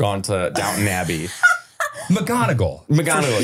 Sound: laughing

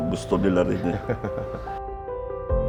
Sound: laughing

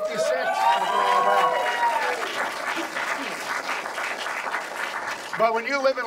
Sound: audience applauds

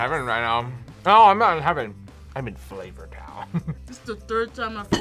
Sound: laughs

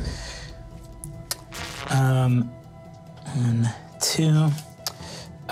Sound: static crackling

